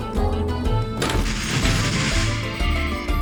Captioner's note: hatch of the spaceship opening